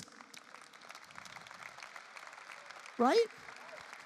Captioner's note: audience applause